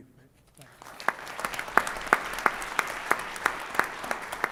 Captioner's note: audience applauds